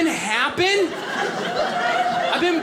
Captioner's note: audience laughing